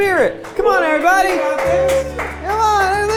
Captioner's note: crew cheers